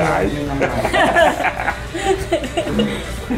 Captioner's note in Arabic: يضحك